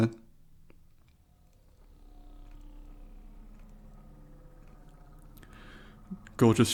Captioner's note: spaceship ambience fades in